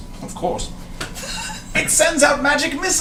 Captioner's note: laughs